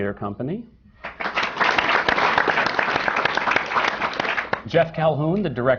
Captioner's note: applause